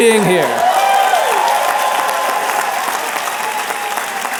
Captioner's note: applause